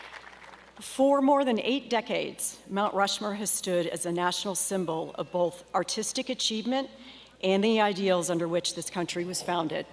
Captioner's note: cheers and applause